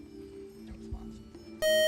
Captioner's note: whispering; time out buzzer